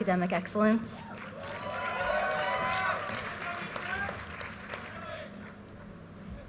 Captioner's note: audience cheers and applause